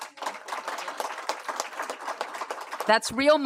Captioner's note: applause